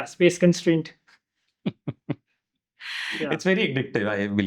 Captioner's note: laugh